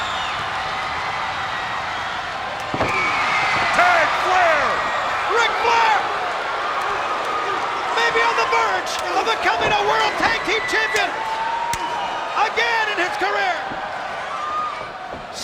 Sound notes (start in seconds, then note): 2.7 hands thudding; 6.6 blows thudding; 14.0 blows thudding